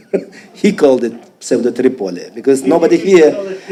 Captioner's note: speaking foreign language